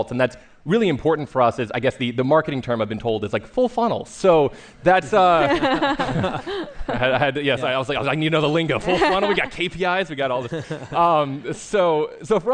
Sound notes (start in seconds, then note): 5.3 laughter